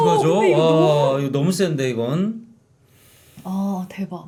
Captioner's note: sighing at the serious story